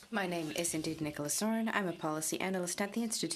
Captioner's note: speaking in french